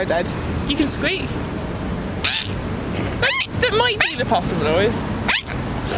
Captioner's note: squawks; squawks